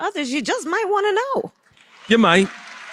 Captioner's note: applause